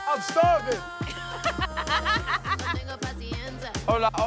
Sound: laughs

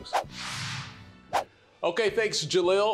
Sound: whooshing

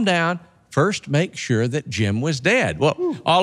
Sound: hoots

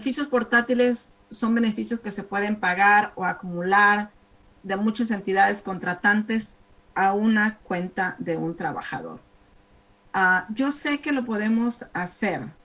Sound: speaking spanish

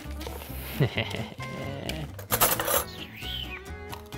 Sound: chuckling

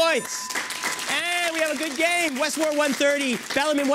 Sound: bell

